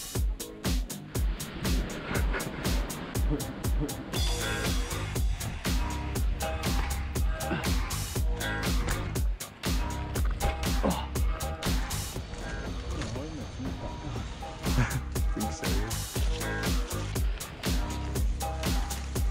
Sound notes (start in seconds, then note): 10.7 grunting; 16.7 upbeat music